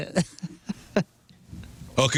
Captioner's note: laughter